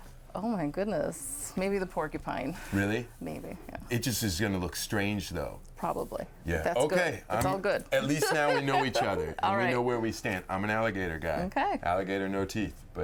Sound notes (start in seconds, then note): 8.2 chuckling